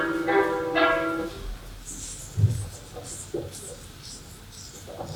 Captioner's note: scurrying